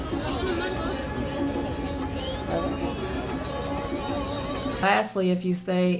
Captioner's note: girl speaking foreign language